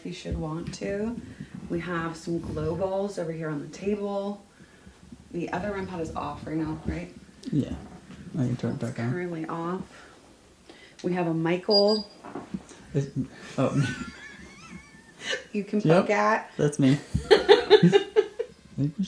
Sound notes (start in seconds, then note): 13.4 both laughing; 16.9 laughs